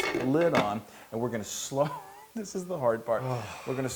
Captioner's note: laugh